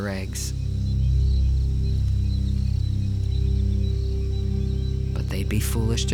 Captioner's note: birds chirping; light dramatic music